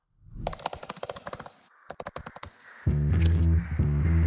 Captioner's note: typing